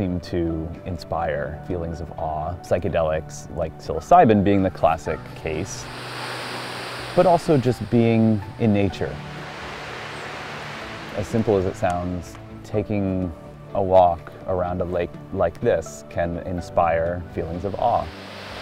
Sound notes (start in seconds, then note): 5.6 water rushing; 9.3 water rushing, birds chirping; 17.8 water rushing